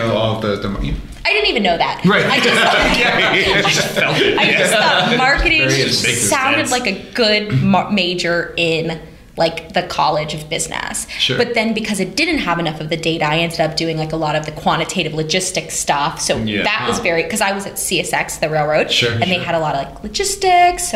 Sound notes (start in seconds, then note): 2.0 laughter